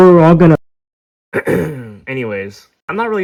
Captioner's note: clears throat